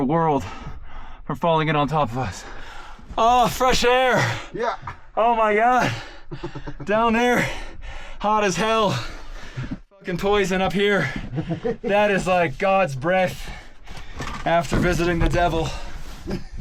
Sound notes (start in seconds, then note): 5.6 laughs; 11.0 chuckles